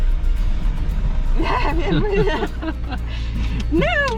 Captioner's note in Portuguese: Risos